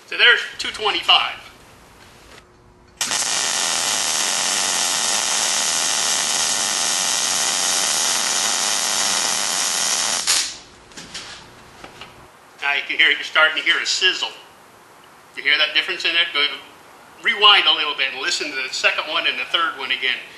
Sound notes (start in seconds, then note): 2.2 welding